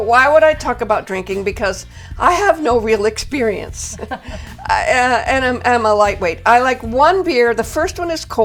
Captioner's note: giggles